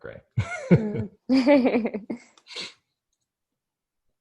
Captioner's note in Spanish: both laugh